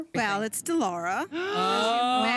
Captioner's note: gasping